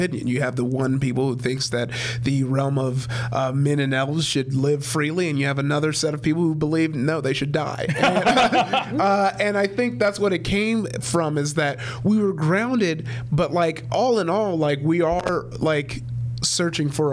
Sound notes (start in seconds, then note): 8.0 Brennan guffaws